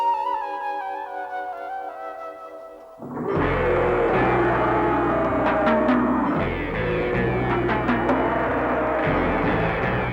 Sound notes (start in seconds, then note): 3.0 deep suspenseful music; 3.0 dinosaurs roar